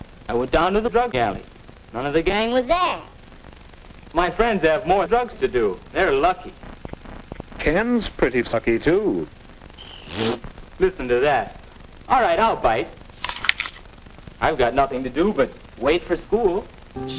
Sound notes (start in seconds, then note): 9.7 flatulence noise; 13.2 big cronch